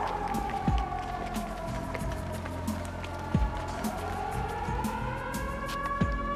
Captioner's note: sirens